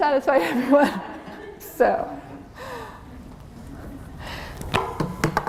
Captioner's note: laughter